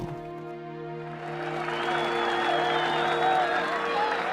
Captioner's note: cheering